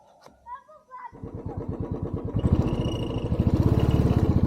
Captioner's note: engine noise